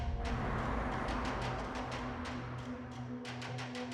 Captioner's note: soft ominous music; car passing